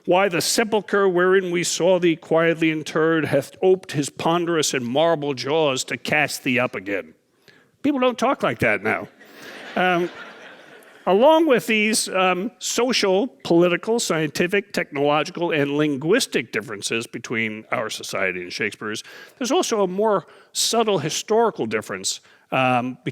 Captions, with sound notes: Why the sepulcher, wherein we saw thee quietly interred, hath oped his ponderous and marble jaws to cast thee up again? People don't talk like that now. (audience laughing) Along with these social, political, scientific, technological and linguistic differences between our society and Shakespeare's, there's also a more subtle historical difference